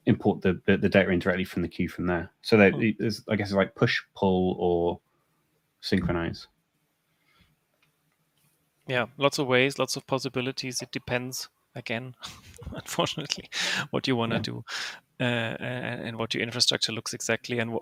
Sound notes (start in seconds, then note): 12.2 chuckles